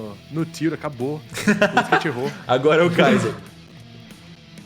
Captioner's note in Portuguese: risos